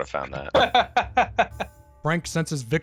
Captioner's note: joyful, sadistic laughter